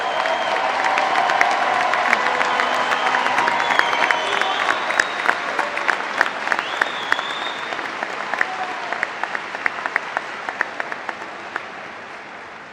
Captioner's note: applause